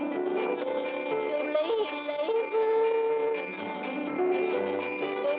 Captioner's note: whistling; yodeling; whistling; yodeling